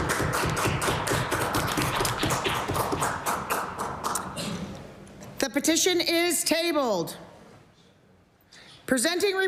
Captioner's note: applause